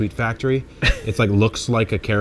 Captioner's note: chuckles